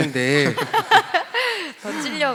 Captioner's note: laugh